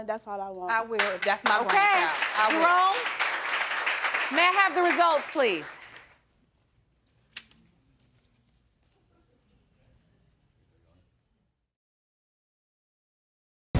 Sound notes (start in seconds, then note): 2.5 audience applauding